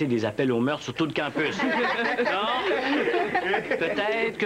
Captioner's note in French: Rires